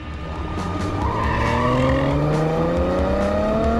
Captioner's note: car rushes